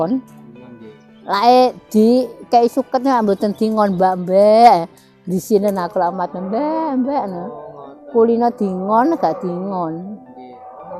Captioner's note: sound of sheep